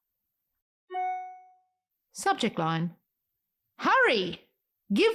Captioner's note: email sound